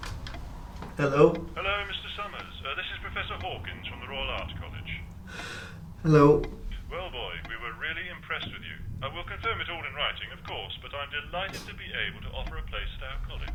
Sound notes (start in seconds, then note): 1.3 on phone